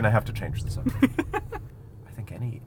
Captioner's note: laughs